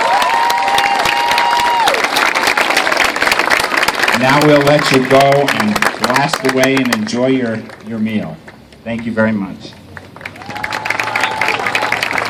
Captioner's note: cheers